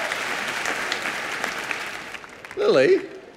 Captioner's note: applause